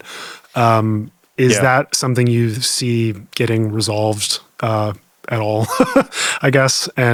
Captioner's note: chuckles